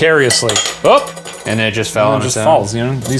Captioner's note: lid clatters